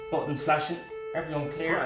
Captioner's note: siren